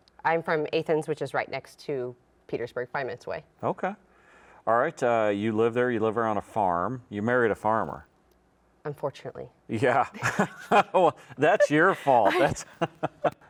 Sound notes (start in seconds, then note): 9.9 laughs